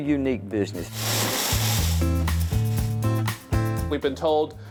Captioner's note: paper rustling